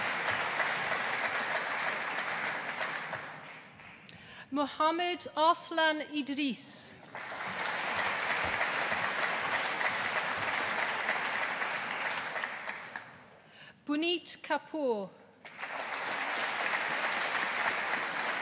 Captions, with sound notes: Muhammad Arslan Idrees. (AUDIENCE APPLAUDING) Puneet Kapoor. (AUDIENCE APPLAUDING)